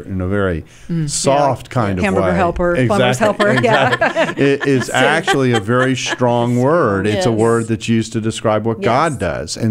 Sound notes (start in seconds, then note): 3.0 laughing